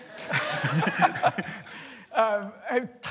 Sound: laughter

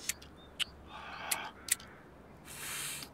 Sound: lighter sparks

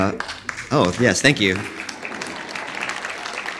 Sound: audience applauding

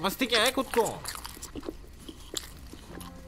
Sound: distant eating noises

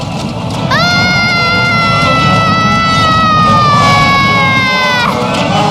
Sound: screaming

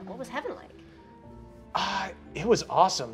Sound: sighing

